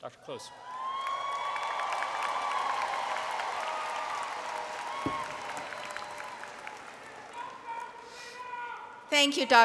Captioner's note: applause